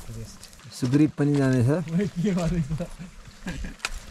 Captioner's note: laughter